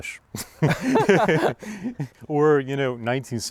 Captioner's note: laughter